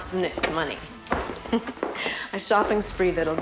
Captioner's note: chuckling